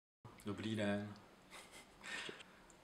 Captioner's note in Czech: smích